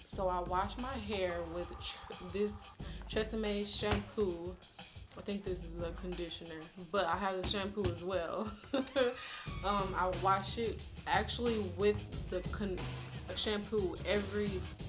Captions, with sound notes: So I wash my hair with this Tresemme shampoo. I think this is the conditioner, but I have the shampoo as well (laughs). I wash it, actually, with the shampoo every four weeks